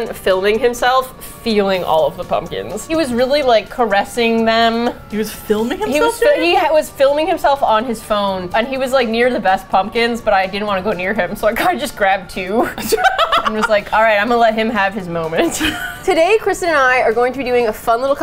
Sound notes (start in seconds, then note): 12.7 laughs; 15.2 both laugh